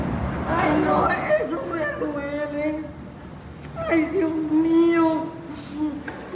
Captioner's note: bystander speaks in foreign language